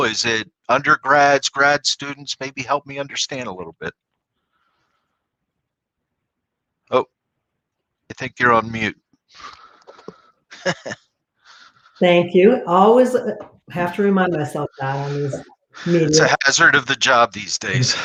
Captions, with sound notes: Is it undergrads, grad students maybe help me understand a little bit. Oh, I think you're on mute. [LAUGHTER] >> Thank you. I always have to remind myself. >> That's part of the job these days.